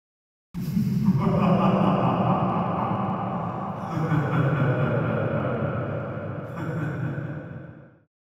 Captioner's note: evil laugh